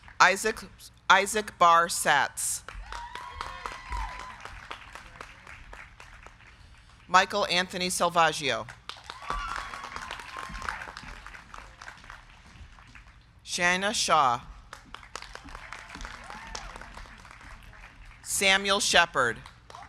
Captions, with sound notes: Isaac Barr Satz. (crowd cheering) (crowd clapping) Michael Anthony Selvaggio. (crowd cheering) (crowd clapping) Shayena Shah. (crowd cheering) (crowd clapping) Samuel Sheppard.